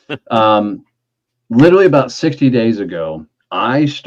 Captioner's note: chuckling